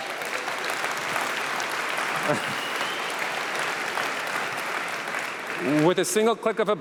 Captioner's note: applause